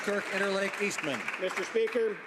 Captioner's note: some Applause